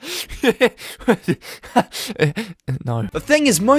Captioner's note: uncontrollable fake laugh; inhales